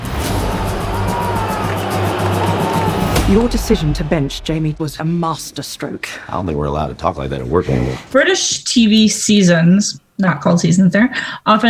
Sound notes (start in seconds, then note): 0.0 upbeat music; 0.0 crowd cheering